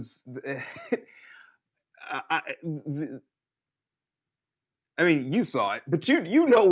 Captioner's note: laughs